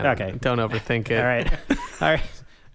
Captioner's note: laughing; quiet background laughter